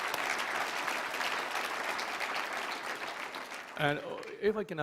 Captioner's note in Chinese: 掌声